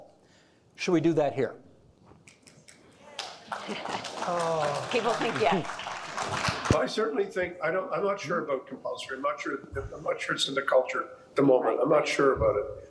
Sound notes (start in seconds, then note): 3.1 audience applauding